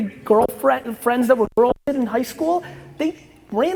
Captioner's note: audio distorts